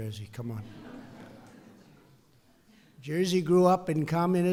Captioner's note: laughter